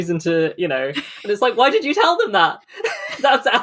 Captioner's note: laughs; laughing